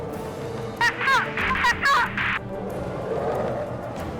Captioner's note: screaming